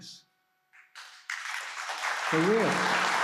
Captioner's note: applause